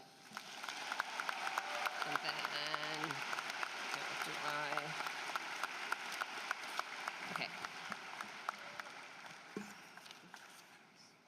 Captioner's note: applause